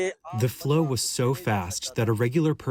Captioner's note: through translator